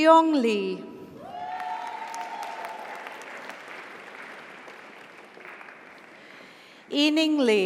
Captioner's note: audience cheers; audience applauds